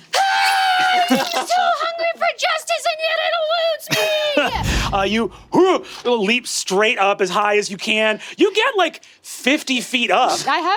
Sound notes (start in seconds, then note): 0.0 screams; 5.5 grunts